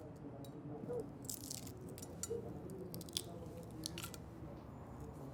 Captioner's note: eggshell cracking